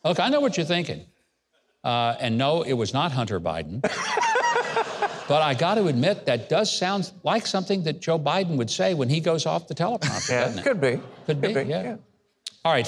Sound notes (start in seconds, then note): 3.8 laughing